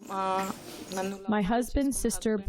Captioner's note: through translator